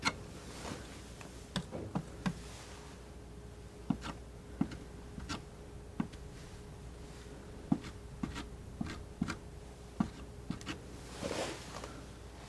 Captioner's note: scratching